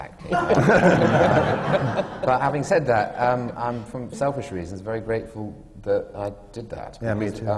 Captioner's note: laughter